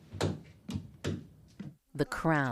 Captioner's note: smacks hands on desk